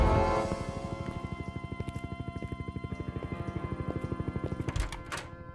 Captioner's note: helicopter whirring distantly